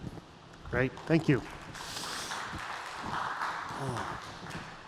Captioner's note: applause